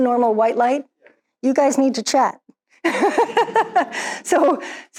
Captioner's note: laughs